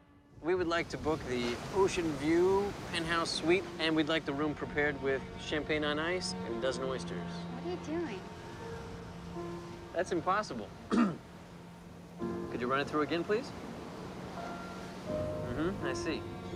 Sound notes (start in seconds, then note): 10.9 clears throat